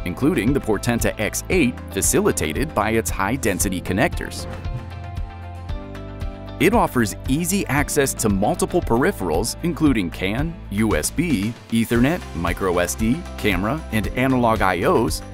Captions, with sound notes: including the Portenta X8, facilitated by its high-density connectors. (screen whooshes) (bright music) It offers easy access to multiple peripherals, including can USB, ethernet, microSD, camera, and analog I/Os,